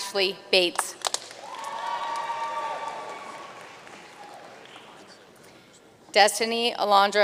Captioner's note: audience cheering and applauding